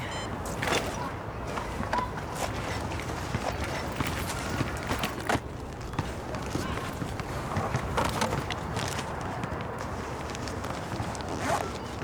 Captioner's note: rustling; zipping